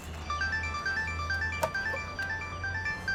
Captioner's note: mobile ringing